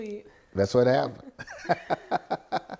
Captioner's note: laughs